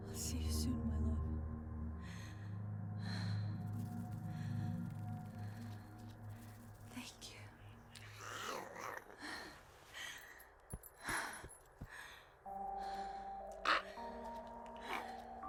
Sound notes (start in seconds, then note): 7.9 Giree grumbles; 12.4 pensive music